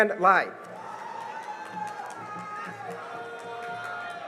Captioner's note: cheering and applause